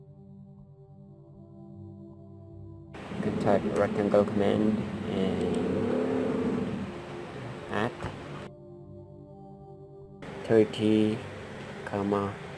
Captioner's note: tricycle sound